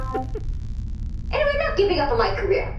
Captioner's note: end transmission sound